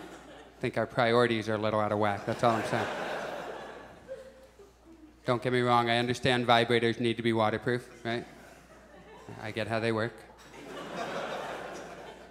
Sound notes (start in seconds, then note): 2.2 audience chuckles; 10.5 audience laughs